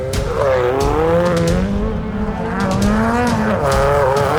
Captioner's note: car engine revving